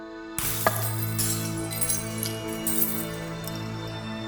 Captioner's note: glass shattering; tranquil music